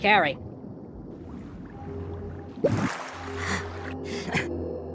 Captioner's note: swimming sounds